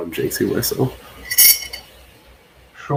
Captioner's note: metal clangs